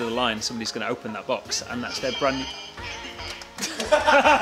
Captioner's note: phone Rings; laughing